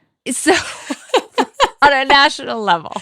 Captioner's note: presenter laughing